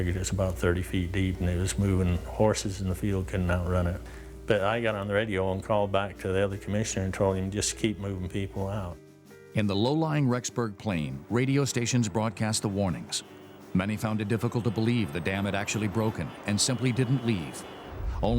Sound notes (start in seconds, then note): 9.7 voiceover